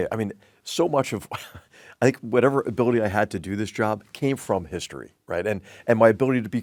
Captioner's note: laugh